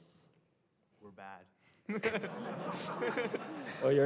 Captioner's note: laughter